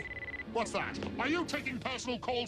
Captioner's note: cell phone ringing